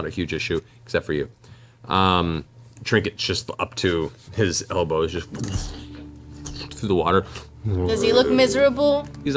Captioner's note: sloshing